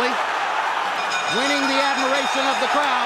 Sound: bell dinging

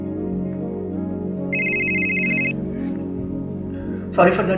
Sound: cell phone ringing

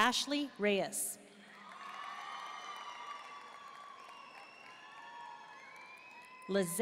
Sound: audience cheering and applauding

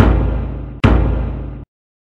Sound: thump

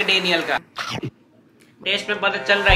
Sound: chomp

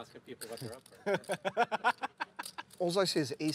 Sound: laughter

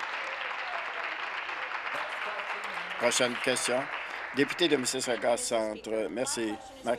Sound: applause

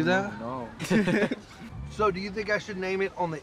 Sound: laughter

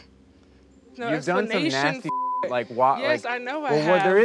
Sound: beep

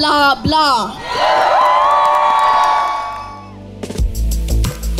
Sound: crowd cheers

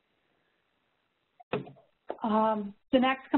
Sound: pause

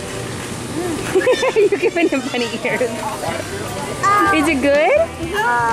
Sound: laughs

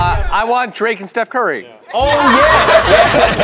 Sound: laughter

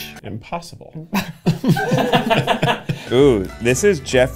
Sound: laughter

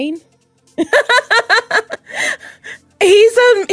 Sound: laughs

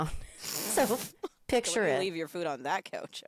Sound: both laughing

